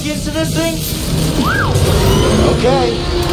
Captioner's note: whistle